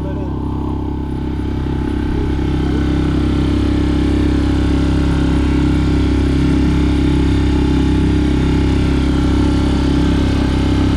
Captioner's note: engine sound